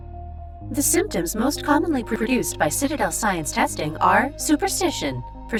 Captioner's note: stuttering